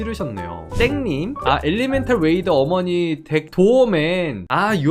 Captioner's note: voiceover